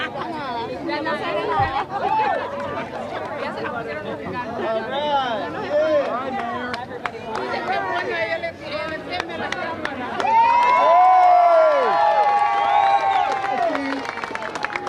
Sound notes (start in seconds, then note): 2.0 applause